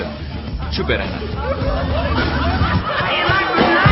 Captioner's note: all laughing mockingly